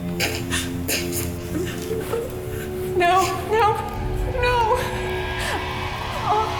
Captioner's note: crying; groaning